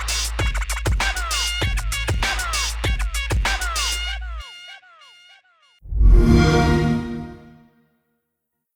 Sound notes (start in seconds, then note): 5.9 xbox sound